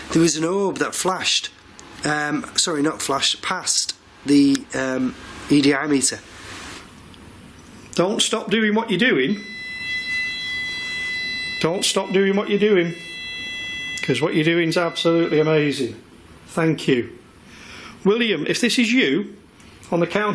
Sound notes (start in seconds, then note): 8.9 machine beeping